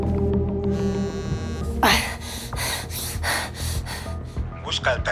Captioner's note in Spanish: Vibra el celular